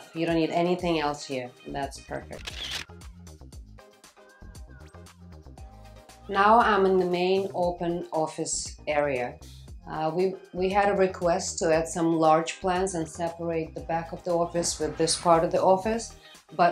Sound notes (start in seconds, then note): 2.3 camera shutters; 3.0 bouncy pop music